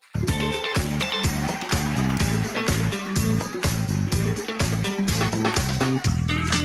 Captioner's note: audience applauds; upbeat music